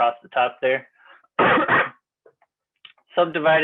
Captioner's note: coughs